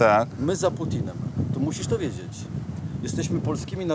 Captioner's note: switches to Polish; speaks Polish